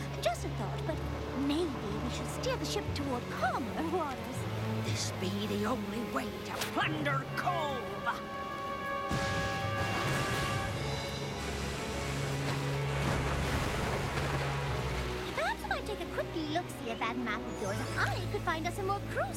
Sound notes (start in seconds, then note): 10.8 thunder crashing; 13.8 dramatic music continues